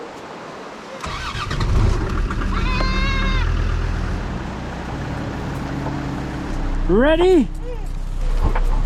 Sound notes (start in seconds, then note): 1.0 vehicle rumbling